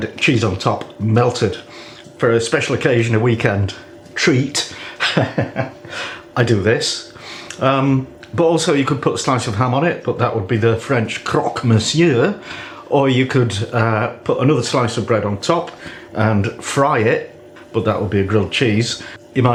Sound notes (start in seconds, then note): 4.9 laffs